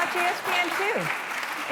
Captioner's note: applause